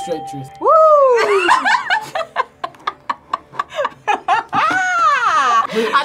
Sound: both laugh

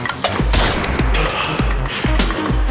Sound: gunshot

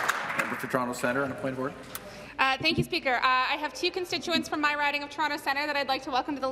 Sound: applause

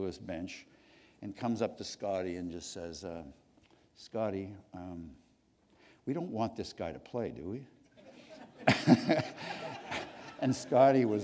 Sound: laughter

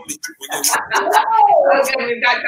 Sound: laughs

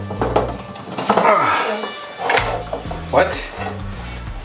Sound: grunts

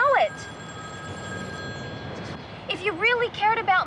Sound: phone rings

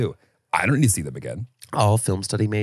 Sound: laughs

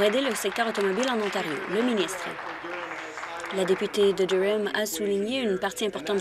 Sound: applause

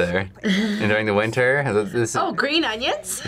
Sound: laughs

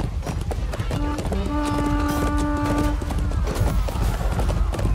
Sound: morale boosting horn

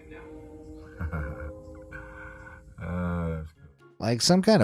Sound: laughs

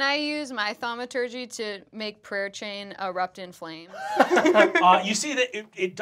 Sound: laughter

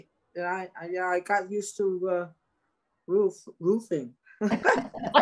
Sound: all laughing

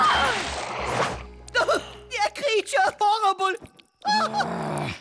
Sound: screaming

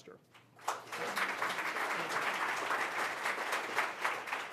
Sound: audience applauds

